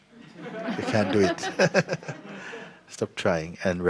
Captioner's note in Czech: smích